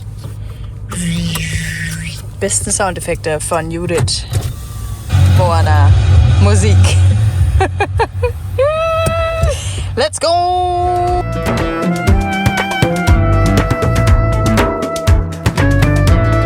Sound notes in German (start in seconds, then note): 7.6 gelächter